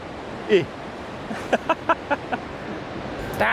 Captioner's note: laughter